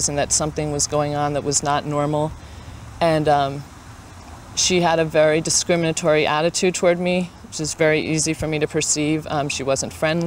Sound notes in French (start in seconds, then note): none